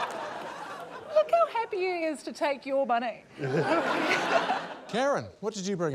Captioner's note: laughter; laughter